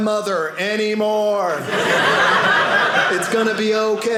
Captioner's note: audience laughing